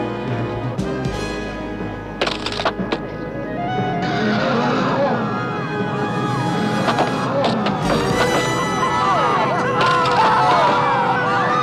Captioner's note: pillars crack, people gasp in disbelief